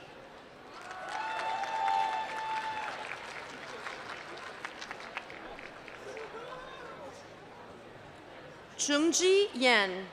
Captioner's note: applause